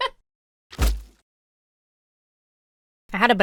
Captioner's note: laughs; banana peel squishes